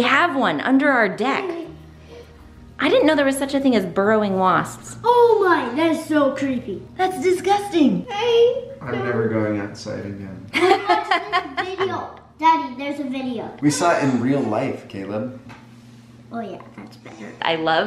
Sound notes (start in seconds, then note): 10.6 laughing